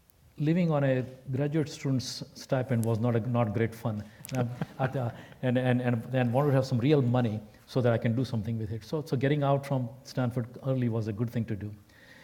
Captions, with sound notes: Living on a graduate student's stipend was not, not great fun. >> [LAUGH] >> At the, and, and, and I wanted to have some real money so that I can do something with it. So, so getting out from Stanford early was a good thing to do.